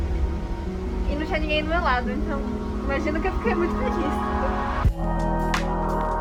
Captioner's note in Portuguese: risadas